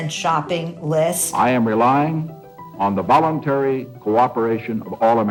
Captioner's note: soundbite of archived recording